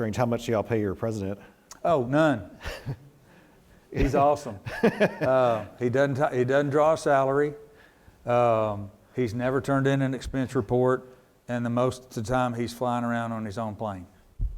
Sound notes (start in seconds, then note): 4.6 laughs